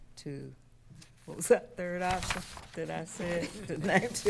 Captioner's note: papers rustling